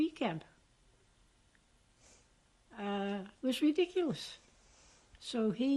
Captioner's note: pauses for 3 seconds